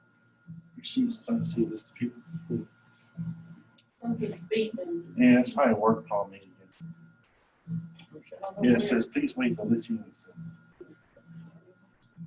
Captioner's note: indistinct background conversation before meeting begins